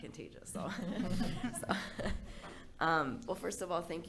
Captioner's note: board laughing